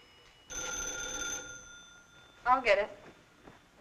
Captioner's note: phone ringing